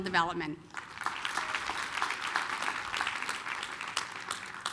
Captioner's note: applause